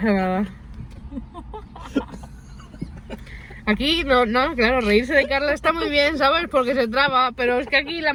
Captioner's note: laughter; more laughter